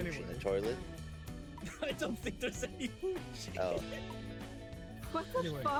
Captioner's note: laughs